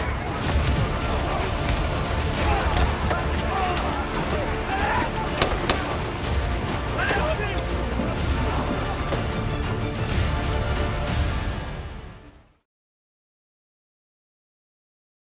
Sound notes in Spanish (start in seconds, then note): 4.9 Exclamaciones; 5.3 Disparos